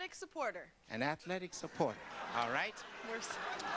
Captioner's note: audience laughter